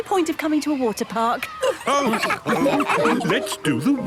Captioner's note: all laughing